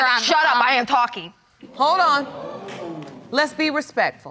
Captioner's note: audience exclaim